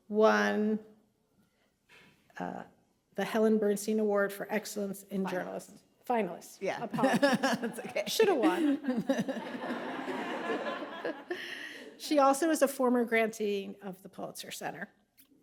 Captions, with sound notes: won the Helen Bernstein Award for Excellence in Journalist- - Finalist. - Finalist, apologies. - Yeah. (laughs) It's okay. (laughs) - Should have won. (audience laughing) She also is a former grantee of the Pulitzer Center.